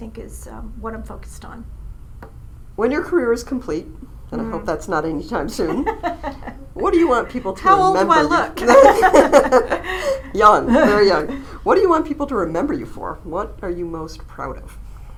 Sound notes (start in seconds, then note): 5.5 laughs